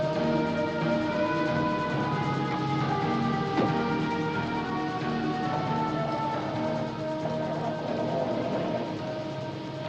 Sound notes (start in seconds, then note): 3.5 door closes; 6.5 starter whirrs